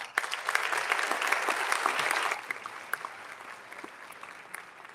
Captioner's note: audience applauding